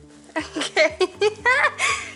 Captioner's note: laughter